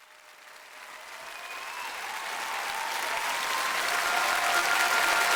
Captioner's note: audience cheers and applauds